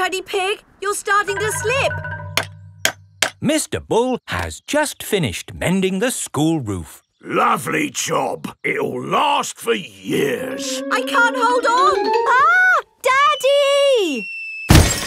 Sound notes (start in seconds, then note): 3.0 clanking